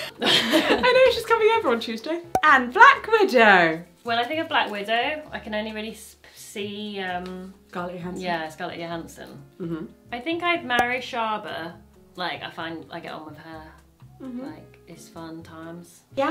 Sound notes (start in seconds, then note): 0.1 laughs; 2.3 cork popping